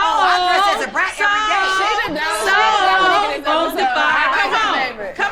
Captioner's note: group arguing